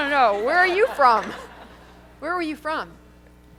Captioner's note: laughter